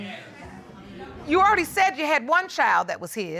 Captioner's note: audience murmuring in agreement